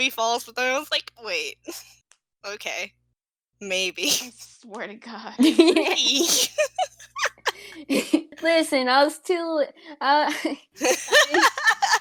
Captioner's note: laughs